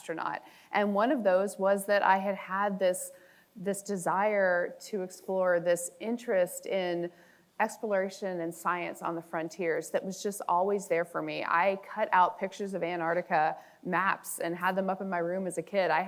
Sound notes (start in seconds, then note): none